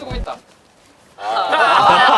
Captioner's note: silent